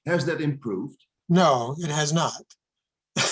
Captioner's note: laughs